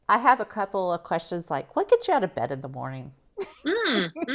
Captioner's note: laughs